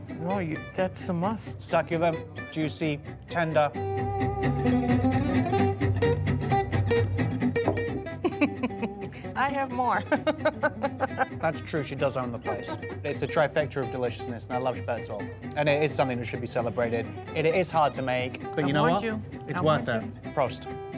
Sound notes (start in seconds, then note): 4.8 uptempo guitar music; 8.1 chuckles